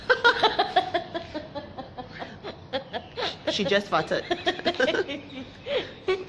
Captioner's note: laughs